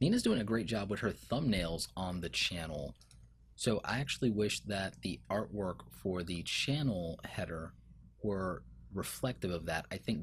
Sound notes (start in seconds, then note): 3.0 clicking